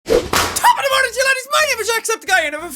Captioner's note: wha-psh!